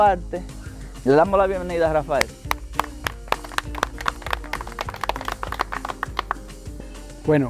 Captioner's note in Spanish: clapping